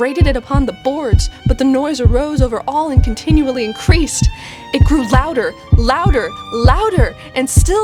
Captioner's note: heartbeat gets steadily louder